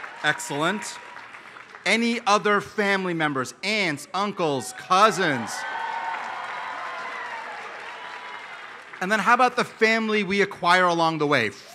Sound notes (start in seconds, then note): 4.8 applause